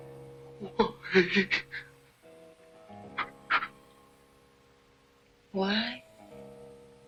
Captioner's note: breathes shakily